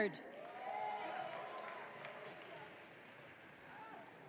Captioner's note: audience cheering